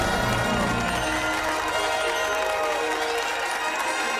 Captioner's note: cheers and applause